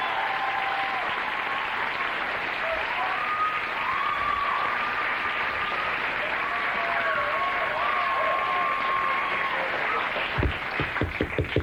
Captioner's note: cheers and applause